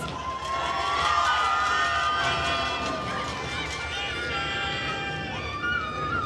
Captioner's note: attendees cheering and applauding